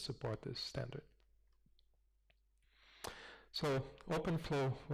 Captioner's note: pause